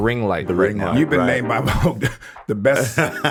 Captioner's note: chuckles